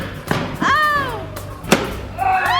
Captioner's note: piñata smacks; piñata cracks